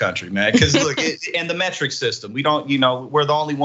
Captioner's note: laugh